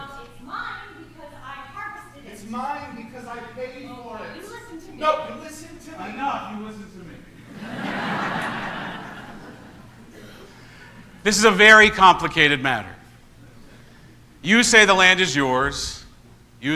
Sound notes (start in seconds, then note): 6.9 congregation laughs